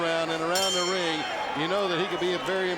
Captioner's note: bell rings